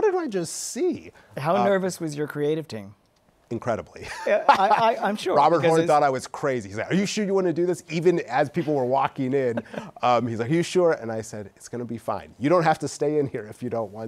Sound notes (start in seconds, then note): 7.1 laughs